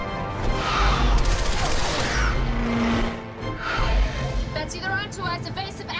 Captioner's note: turrets firing